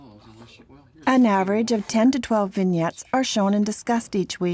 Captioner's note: voiceover